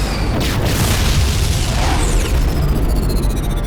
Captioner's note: explosion